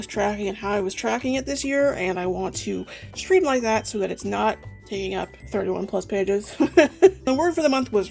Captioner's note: laughs